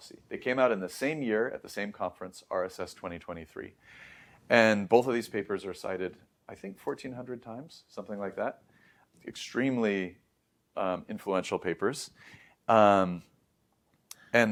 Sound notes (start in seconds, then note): 3.8 inhales; 14.0 lips smack